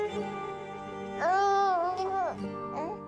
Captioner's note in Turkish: Bebek ağlıyor